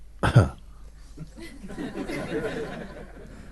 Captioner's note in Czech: smích